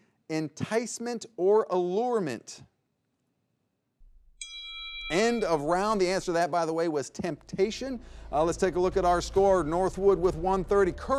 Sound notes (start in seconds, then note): 4.4 bell dings